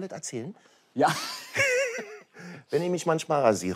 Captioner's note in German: Lachen